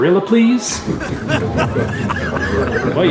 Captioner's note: crowd laughing